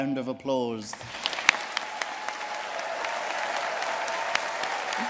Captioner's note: audience cheering and applauding